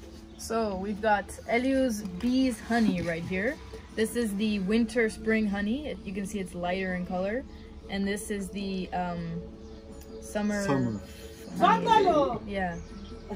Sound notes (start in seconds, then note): 11.5 Arabic